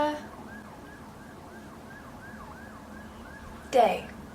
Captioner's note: sirens in background